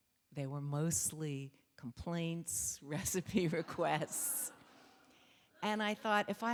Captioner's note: laughs